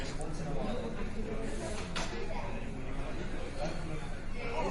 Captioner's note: crowd chattering